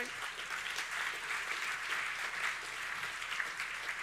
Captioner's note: audience applauding